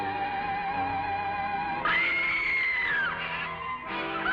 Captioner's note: screams